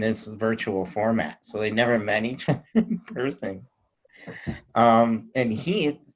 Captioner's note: laughing